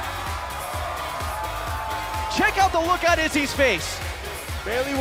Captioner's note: crowd cheering